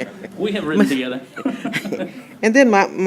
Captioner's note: laughter